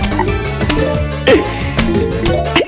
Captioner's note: exhales Oxygen